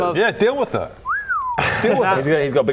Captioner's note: impressed whistle